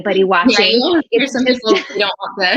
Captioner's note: laughing